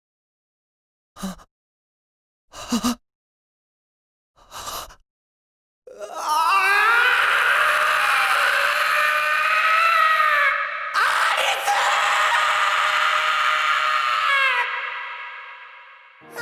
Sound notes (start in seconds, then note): 7.5 anguished scream